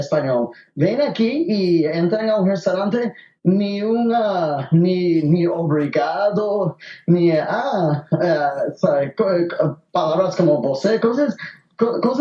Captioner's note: in Portuguese